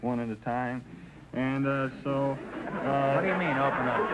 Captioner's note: audience laughter